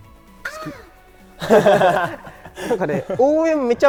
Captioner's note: laughs